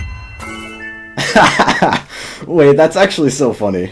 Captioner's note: laughter